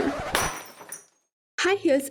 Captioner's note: crash